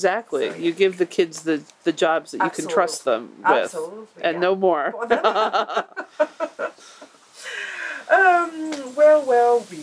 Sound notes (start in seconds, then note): 4.9 laughs